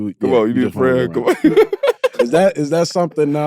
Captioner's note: laughs